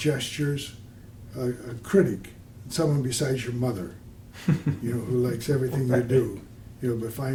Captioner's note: laughter